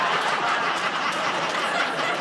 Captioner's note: laughter